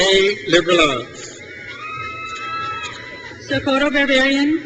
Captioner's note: crowd cheers